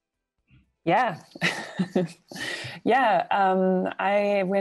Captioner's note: chuckles